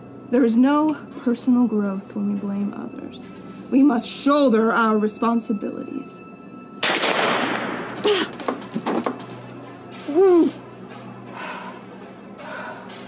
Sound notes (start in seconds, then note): 6.8 gun bangs; 8.1 groans; 10.2 ominous music